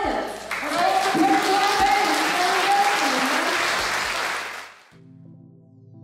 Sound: crowd cheering, drowns out speaker

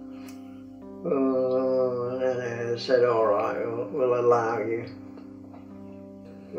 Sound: grumbles

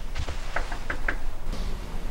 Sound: knocking on door

